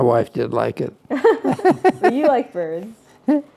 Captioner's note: laugh